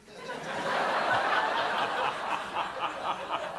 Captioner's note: laughter